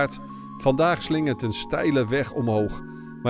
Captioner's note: voiceover